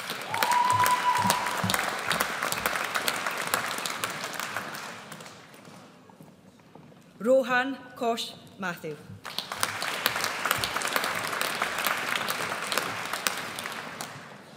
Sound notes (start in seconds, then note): 0.0 audience cheers; 9.2 audience applauds